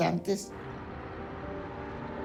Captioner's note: bus engine rumbling